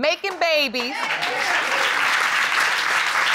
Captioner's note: audience applauding